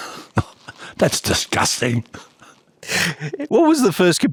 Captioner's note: laughing